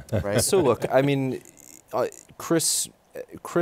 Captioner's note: laughter